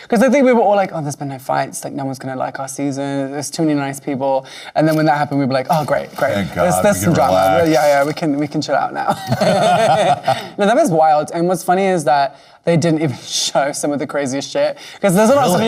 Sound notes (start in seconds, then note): 9.1 both laughing